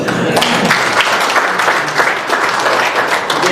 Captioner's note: applause